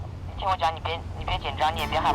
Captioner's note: voice came through the walkie-talkie